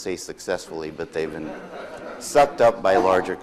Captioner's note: audience laughs